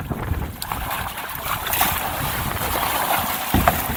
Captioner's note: water splashing